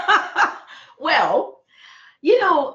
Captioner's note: laughing